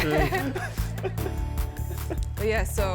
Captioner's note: laughs